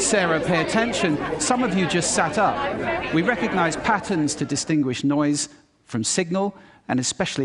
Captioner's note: loud background chatter stops